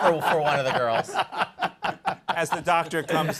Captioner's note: laughter